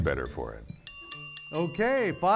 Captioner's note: bell dinging